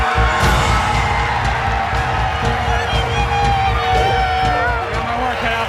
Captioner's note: Gritos e aplausos